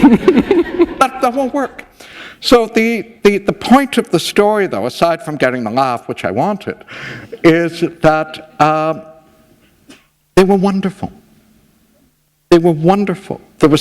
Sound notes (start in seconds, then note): 1.3 chuckle